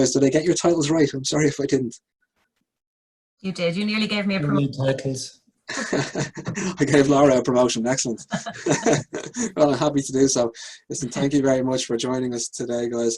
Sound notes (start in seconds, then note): 8.1 laughs